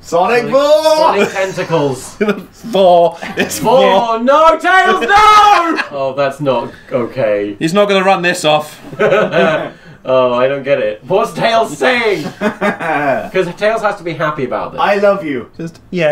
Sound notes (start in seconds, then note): 8.9 laughs